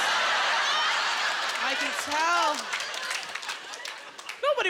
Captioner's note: laughter